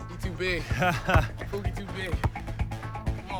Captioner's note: laughter